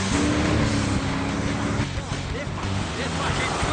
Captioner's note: car engine roars